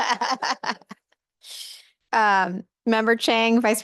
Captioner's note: laughter